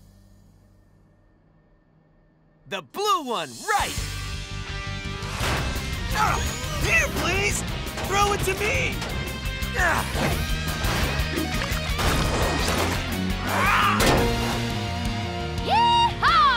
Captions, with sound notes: The blue one, right! Here, Blaze! Throw it to me! [grunting] [roars] Yee-haw!